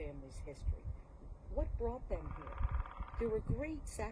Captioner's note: woodpecker noises